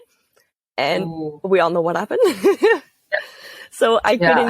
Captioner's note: laugh